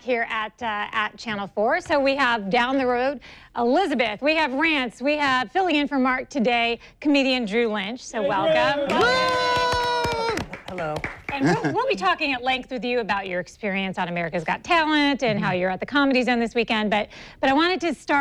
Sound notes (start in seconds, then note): 12.1 cheers and applause